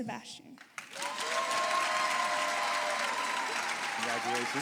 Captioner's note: applause